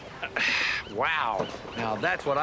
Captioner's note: sighing